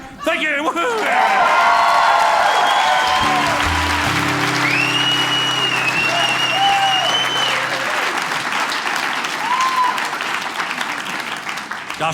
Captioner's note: audience cheering